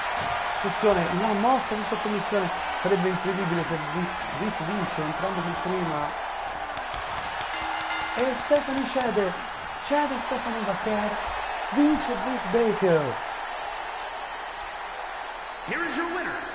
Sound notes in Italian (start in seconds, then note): 11.0 Applauso